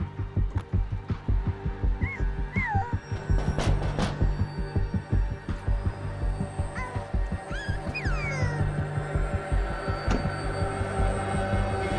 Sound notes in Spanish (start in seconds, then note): 2.9 Toques en la puerta; 7.4 Gorjeos del bebé